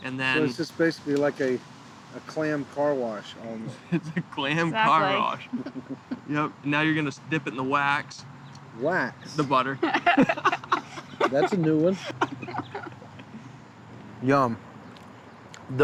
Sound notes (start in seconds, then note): 9.6 laughter